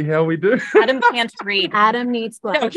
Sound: Adam laughing

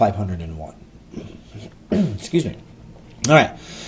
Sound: cough

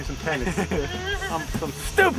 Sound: laughing

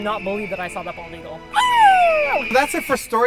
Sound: epic eagle sound

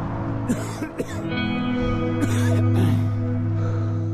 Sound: coughing deeply

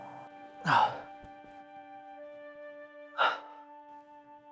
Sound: gentle music; Christian sighs

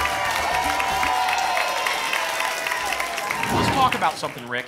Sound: applause and cheering cont

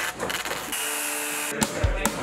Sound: circular saw cutting wood

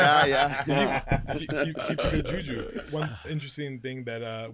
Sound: all laughing

